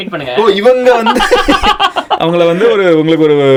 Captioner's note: group laughs